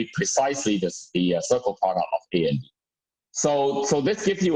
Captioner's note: murmur